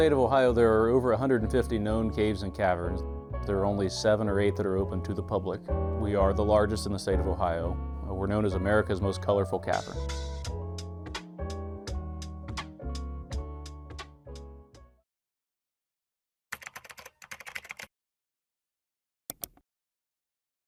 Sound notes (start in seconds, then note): 10.0 whimsical music; 16.5 keyboard keys tapping